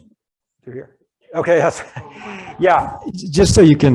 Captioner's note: chuckles